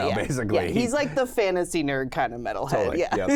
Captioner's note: laughs